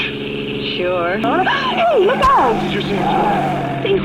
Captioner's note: gasps